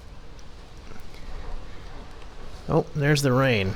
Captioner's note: rain patters outside